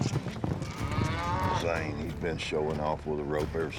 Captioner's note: hoof beats, mooing